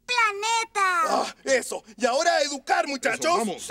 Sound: sigh

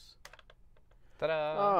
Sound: laughs

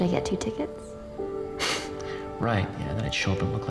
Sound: scoffs

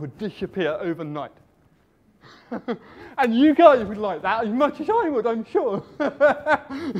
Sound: laughs

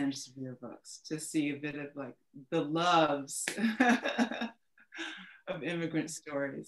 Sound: laughs

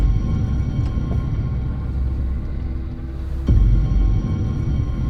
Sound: suspense music; car door opens

